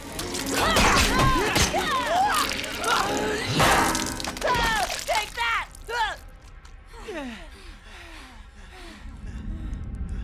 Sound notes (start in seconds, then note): 0.2 grunting; 6.8 panting